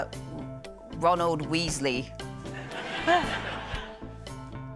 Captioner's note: scattered laughter